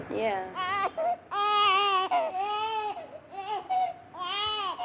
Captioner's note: cries